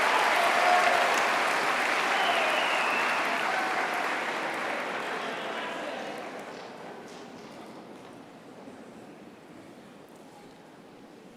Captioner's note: applause